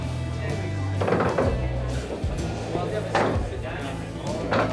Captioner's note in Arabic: الثرثرة، موسيقى الروك الصاخبة